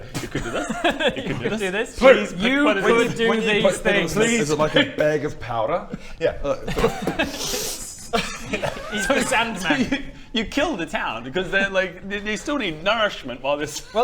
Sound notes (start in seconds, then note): 6.7 poof!